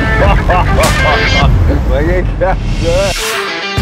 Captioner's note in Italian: risata